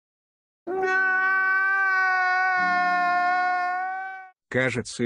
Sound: sounds of crying

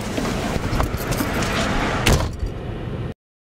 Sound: door slams

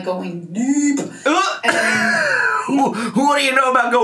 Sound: laughs

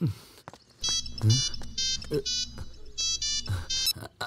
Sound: phone rings

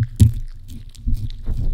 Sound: lick lick lick lick lick lick lick lick lick lick lick lick

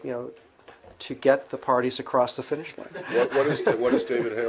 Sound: laughter

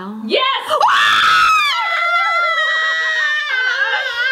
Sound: screams

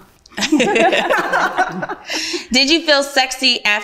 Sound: ladies laugh

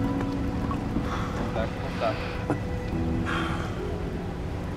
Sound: breathing hard

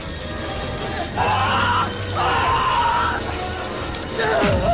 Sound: intense screaming

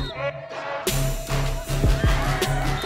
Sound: whistle blows; shouts

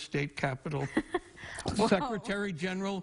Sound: laughing

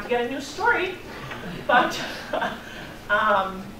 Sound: laughing

